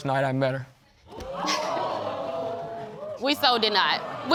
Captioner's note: audience exclaiming; chuckles